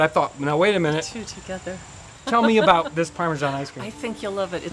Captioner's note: laughing softly